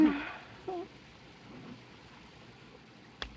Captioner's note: groans